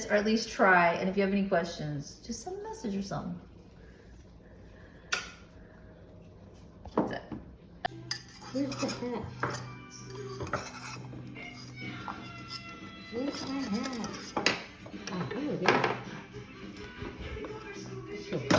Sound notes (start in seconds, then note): 7.8 background noise: kids watching tv